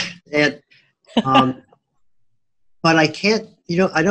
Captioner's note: laughing